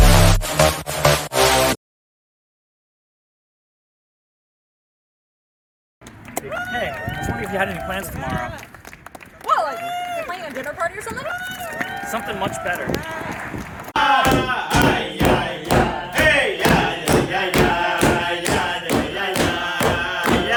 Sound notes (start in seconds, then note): 6.0 applause in background